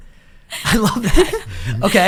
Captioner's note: laughs